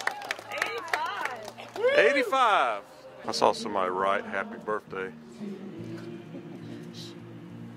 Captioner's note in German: Beifall